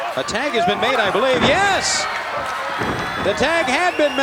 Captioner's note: audience cheering